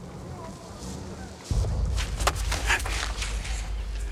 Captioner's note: footsteps